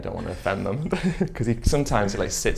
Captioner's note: giggles